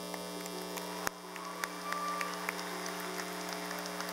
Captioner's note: clapping